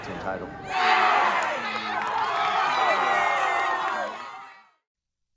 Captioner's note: cheering